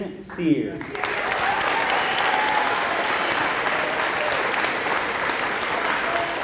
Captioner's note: applause